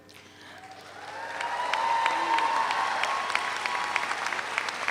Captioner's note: audience applauds